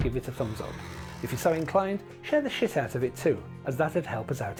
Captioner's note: spit